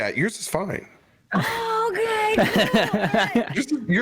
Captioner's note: laughs